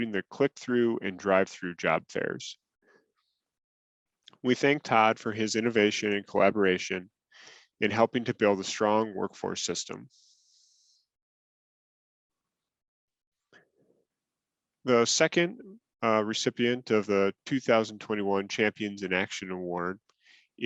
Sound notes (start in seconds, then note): 10.8 silence